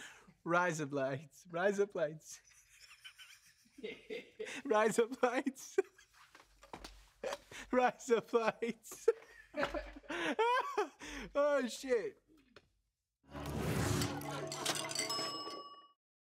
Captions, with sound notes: Razor blades. [IN NORMAL ACCENT] Rise up lights. -[LAUGHING] -[MAN LAUGHING] Rise up lights. Rise up lights. Oh, shit.